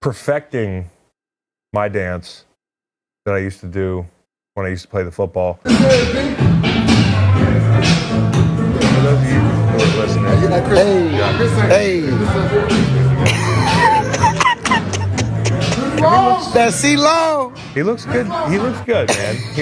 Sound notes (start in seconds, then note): 5.8 dance music; 9.5 chattering faintly; 13.2 man laughs